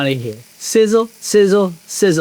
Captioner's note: pan sizzling